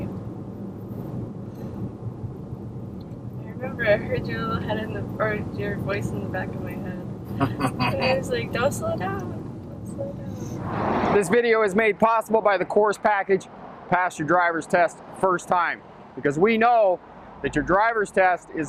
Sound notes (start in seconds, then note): 7.4 laughing